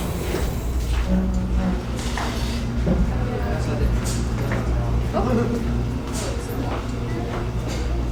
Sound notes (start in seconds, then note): 4.4 students chattering